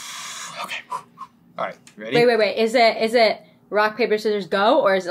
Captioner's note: exhale exhale; whisper